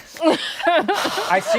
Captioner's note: laughter